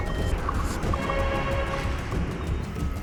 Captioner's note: modem screeching